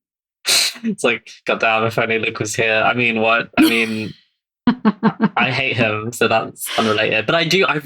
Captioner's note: laughs